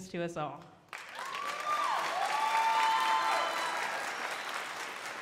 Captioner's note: crowd applauding